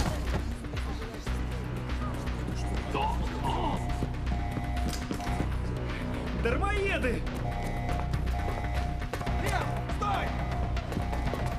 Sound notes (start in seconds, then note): 2.5 alarm blaring